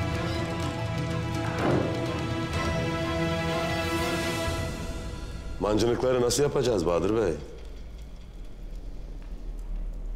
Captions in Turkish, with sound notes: (Kapı kapanma sesi) Mancınıkları nasıl yapacağız Bahadır Bey?